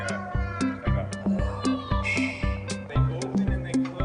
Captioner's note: sound effect